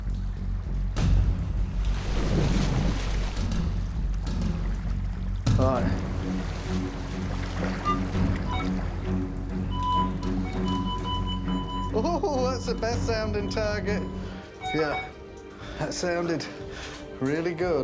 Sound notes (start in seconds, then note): 7.2 metal detector chirping; 8.8 metal detector beeping; 12.0 chuckling